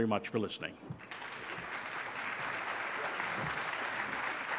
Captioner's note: applause